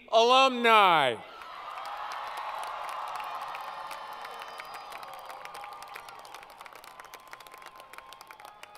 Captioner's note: crowd Cheering & Applause